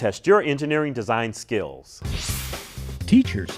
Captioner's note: sound Effects